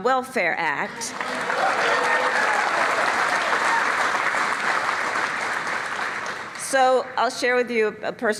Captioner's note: applause